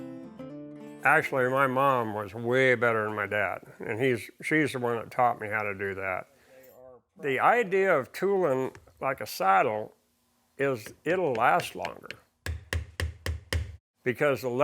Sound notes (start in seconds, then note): 0.0 acoustic music; 12.4 hammer banging